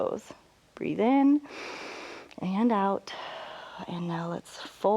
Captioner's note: exhales; inhales